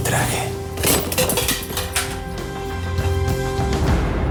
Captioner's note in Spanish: Estruendo